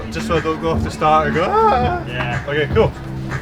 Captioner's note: wailing